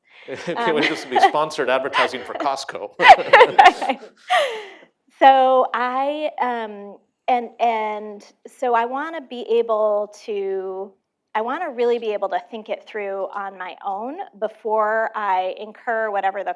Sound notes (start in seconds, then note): 2.9 laughter